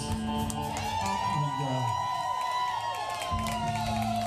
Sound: cheers and applause

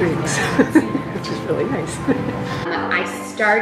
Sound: laughs

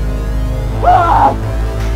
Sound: gasps

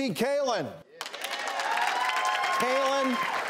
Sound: audience cheers and applauds

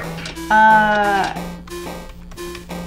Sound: thwonk

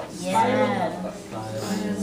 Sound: voiceover

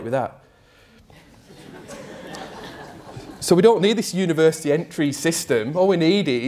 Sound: crowd: laughter

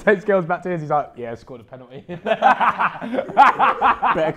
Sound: laughs

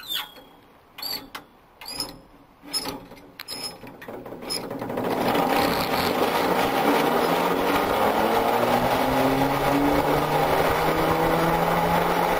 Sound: noise of cablecar going along cable

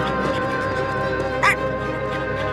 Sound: barking

